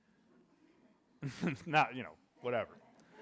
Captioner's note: audience laughing